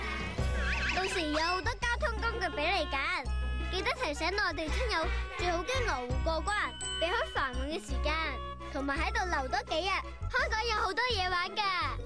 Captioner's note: kid speaking Cantonese